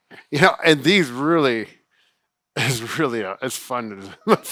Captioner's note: stammering